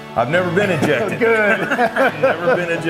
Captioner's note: laughs